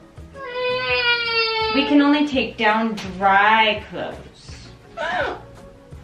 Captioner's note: whining